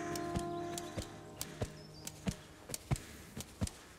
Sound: birds chirping

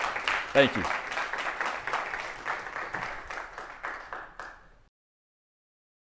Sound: applause

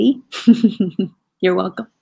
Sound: laughing

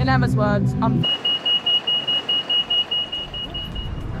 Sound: Pelican crossing beeps

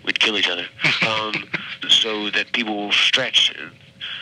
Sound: chuckles

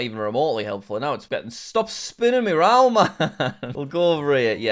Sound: laughs

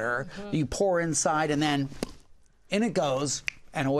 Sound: pop!

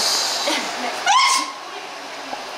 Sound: achoo

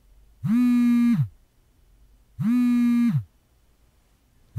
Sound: phone vibrating

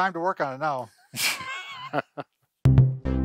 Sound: laughing; upbeat music

